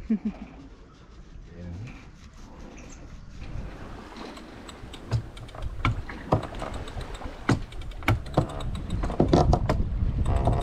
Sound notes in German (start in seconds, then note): 0.0 lacht; 4.7 Metall klirrt